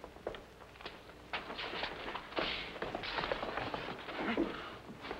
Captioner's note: all scuffling